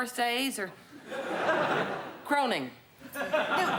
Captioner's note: laughter